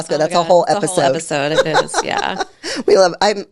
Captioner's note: laughing